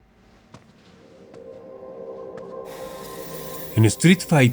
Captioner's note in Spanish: Sonido de Pasos